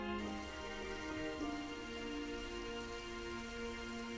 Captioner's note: water trickles